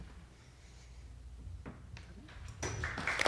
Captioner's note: applause